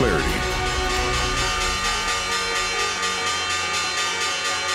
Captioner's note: bell tolls